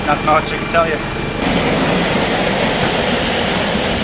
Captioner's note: cargo sliding